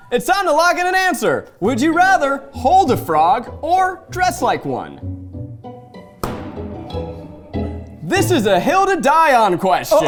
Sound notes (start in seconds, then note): 4.9 light music; 6.2 lever banging